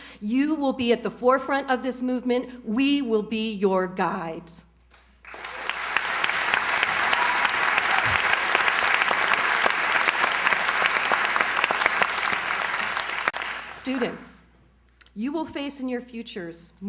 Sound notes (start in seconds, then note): 4.7 applause